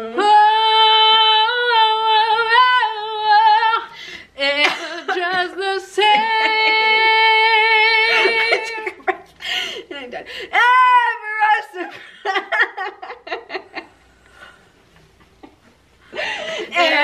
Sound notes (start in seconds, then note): 13.1 laughing